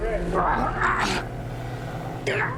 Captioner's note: grunting